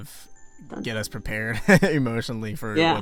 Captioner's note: laughter